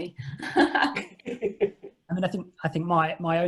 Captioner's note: laughing